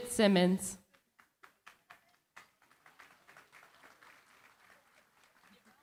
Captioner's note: applause